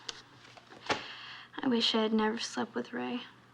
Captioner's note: sighs